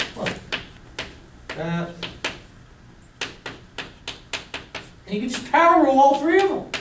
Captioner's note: chalk clicking on board